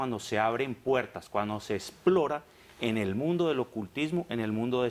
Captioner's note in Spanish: none